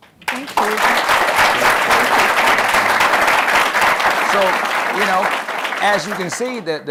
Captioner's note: applause